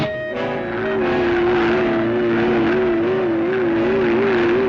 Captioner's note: engine rumbling